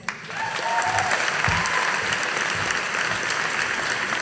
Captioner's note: audience applauding